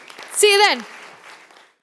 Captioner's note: audience applauding